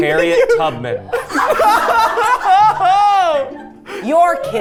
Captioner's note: everyone laughing